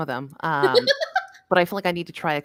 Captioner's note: laughs